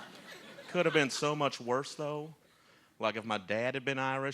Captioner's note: laughter